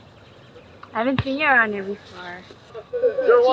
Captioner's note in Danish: på engelsk